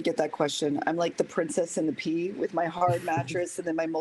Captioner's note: laughter